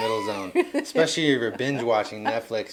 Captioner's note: laughing